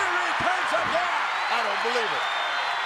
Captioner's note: audience cheers